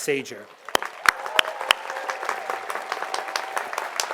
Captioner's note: audience applauds